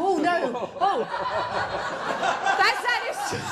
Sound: laughter

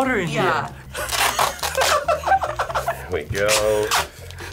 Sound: laughing

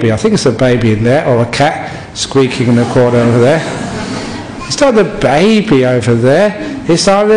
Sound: laughter

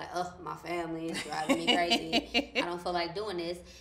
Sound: laughs

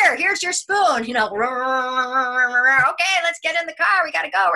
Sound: imitates whirring

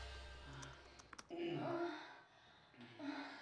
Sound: sighing and moaning from other room

